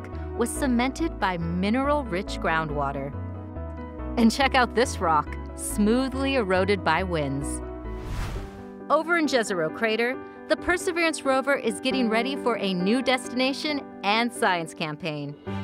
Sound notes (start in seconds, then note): 7.9 whooshing; 9.7 uplifting music